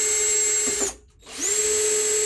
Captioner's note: drill whirring